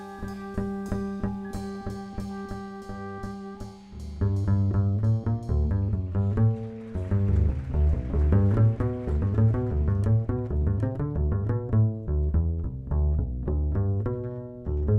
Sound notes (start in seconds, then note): 4.7 double bass instrument strumming; 5.8 audience applauding; 10.6 double bass instrument strumming